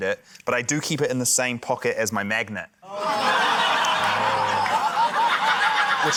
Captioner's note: laughter